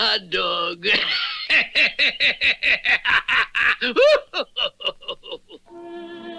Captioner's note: Simon Bar Sinister Laughs